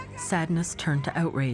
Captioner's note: screams in Japanese